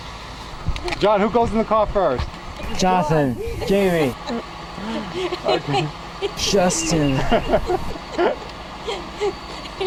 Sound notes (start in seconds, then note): 4.6 laughing